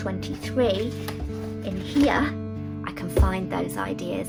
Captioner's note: pages rustling